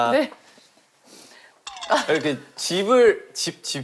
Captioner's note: hesitant